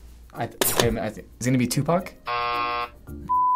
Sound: buzzer

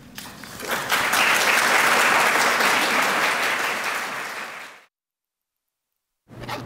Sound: applause

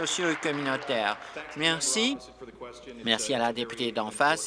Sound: applause

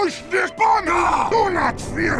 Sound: Sniper wails

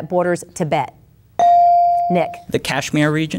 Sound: bell dinging

